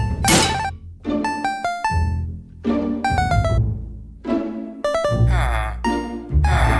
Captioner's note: anvil clangs